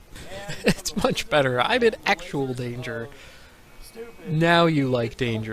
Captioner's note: laughing